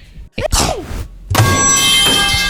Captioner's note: ah-choo!; microhpone falls and thuds in the ground